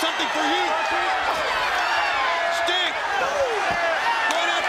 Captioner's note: crowd cheering